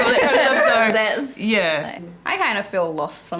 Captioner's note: women laugh